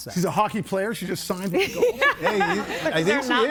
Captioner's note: laughs